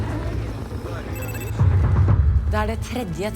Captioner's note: phone ringing